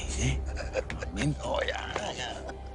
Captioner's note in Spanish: Risas